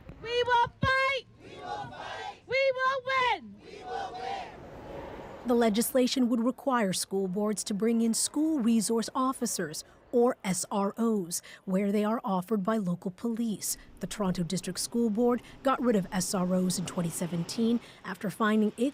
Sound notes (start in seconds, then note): 3.2 chants